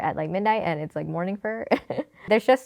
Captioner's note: laughs